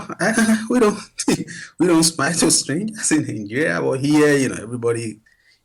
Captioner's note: laughs